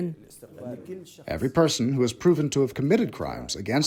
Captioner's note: through translator